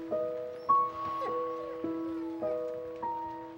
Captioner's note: angus whimpering